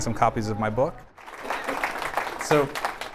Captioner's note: applause